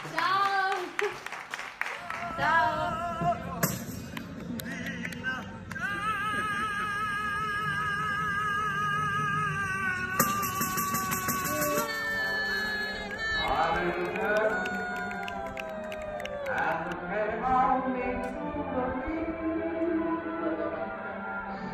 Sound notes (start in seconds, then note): 2.8 singing in foreign language; 11.3 people cheering